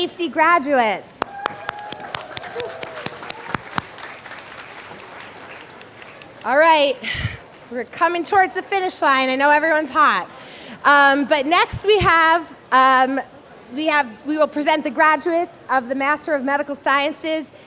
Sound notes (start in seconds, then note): 1.2 applause